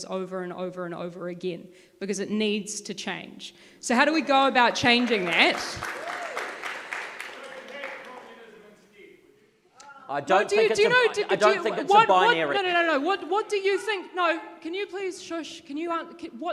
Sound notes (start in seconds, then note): 4.1 audience claps